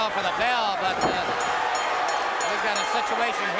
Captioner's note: bell ringing